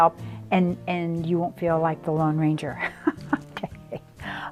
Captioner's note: laughs